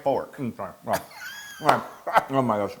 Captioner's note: laugh